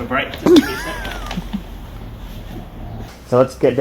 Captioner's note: cameraman laughs